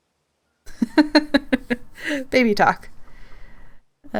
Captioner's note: laughs